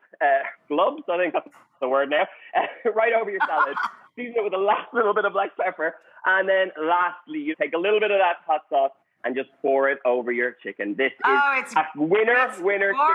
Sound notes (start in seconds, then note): 3.2 laughing